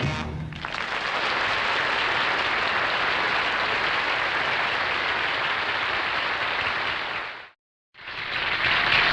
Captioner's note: applause